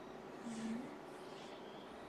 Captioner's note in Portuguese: murmúrio de afirmação